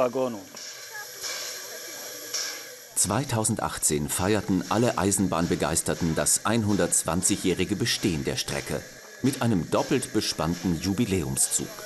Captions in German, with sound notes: (Regelmäßiges Zischen) 2018 feierten alle Eisenbahnbegeisterten das 120-jährige Bestehen der Strecke. Mit einem doppelt bespannten Jubiläumszug.